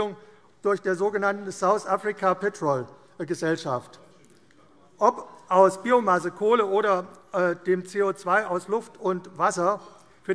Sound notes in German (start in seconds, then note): none